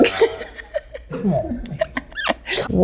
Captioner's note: Jordyn laughs